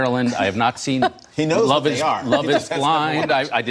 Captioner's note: laughter